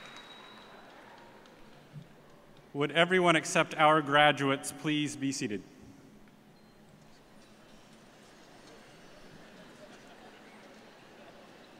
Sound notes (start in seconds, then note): 0.0 cheers and applause